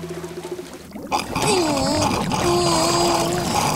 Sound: groaning

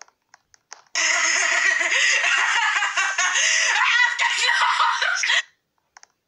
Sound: laughs like a maniac

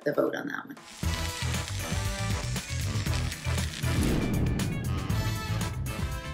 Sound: glass cutter whirs; catchy music continues

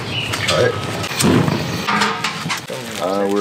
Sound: birds chirping; fire starts; pan clicking; paper rustling

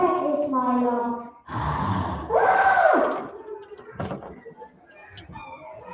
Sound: roars; screams

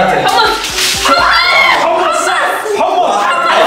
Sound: screams

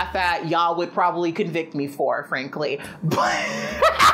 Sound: laughs

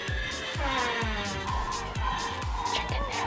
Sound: door creak

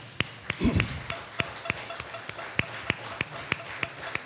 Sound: audience applause

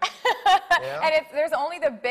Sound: laughing

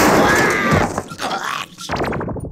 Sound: screams

